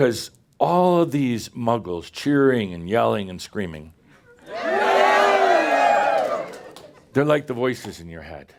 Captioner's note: audience cheers and yells